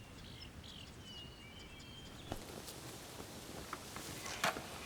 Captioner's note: birds chirping